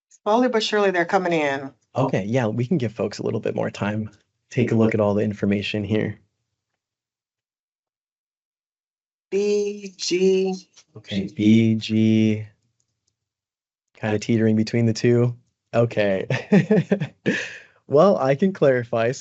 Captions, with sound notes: >> Slowly but surely they're coming in. >> Okay, yeah, we can give folks a little bit more time. Take a look at all the information here. >> B, G. >> Okay, B, G kind of teetering between the two. Okay, [brief laughter]. Well, I can clarify.